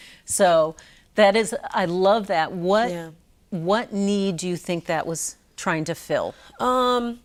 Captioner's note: none